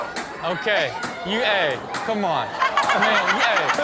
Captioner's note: everyone laughs